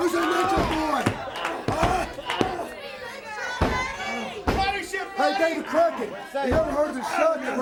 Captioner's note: crowd chatter